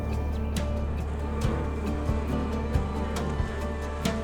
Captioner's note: bees buzz